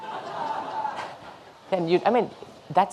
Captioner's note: audience laughing